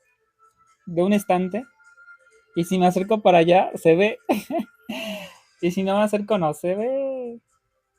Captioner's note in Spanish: risas